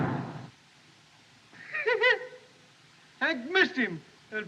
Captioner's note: laughs